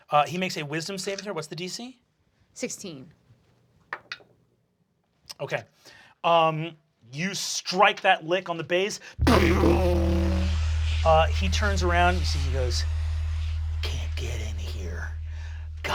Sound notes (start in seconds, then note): 4.4 rolls dice; 9.2 bass guitar plays